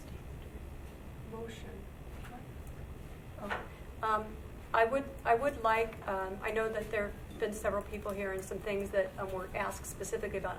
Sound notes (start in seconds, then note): 2.2 whispers